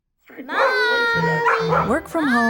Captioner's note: dog barking